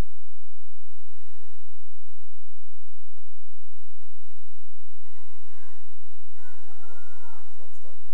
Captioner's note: cheering